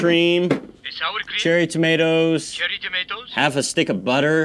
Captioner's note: phone